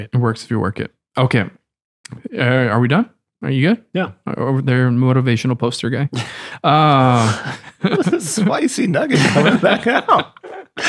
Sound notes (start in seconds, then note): 8.9 chuckles